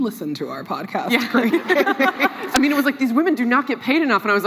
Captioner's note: laughs